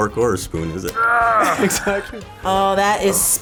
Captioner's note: Jude groaning